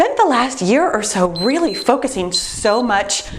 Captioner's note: timer beeps